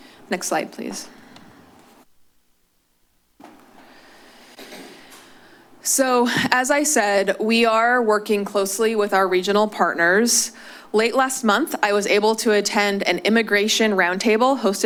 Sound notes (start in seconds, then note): 0.8 shuffling sounds